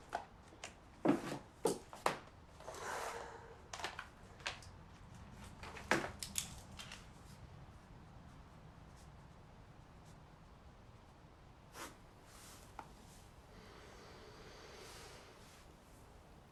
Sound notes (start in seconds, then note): 5.7 notebook thuds; 6.3 pen clicks and scribbles